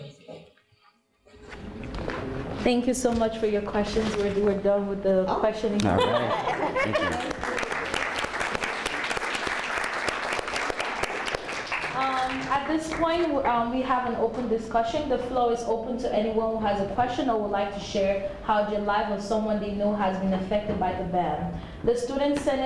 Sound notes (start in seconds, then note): 6.8 applause